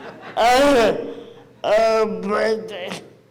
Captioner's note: audience laughs